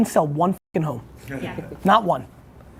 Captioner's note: chuckling